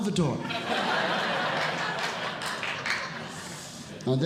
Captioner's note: audience Laughing